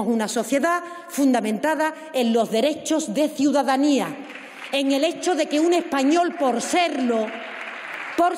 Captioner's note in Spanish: aplausos